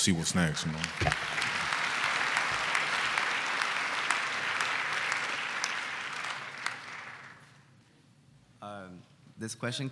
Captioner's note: applause